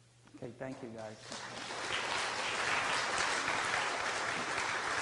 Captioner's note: audience applauds